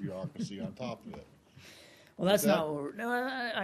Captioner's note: laughter